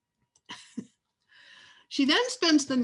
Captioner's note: laughs